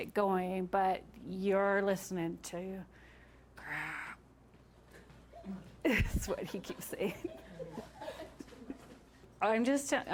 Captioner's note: laughing